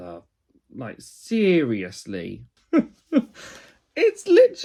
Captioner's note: laughs